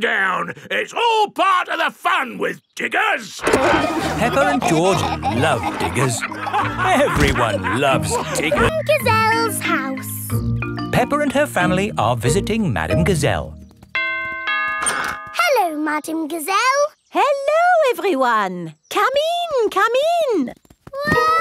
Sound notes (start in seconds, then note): 3.4 peppa and george laughing; 14.0 doorbell rings